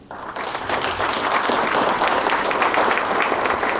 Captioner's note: applause